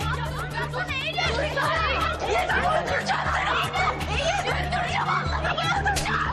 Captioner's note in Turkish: Bağırışlar